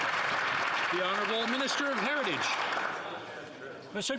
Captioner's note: some Applause